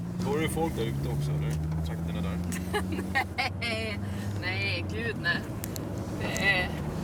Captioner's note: Therese chuckling